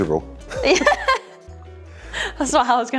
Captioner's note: laughing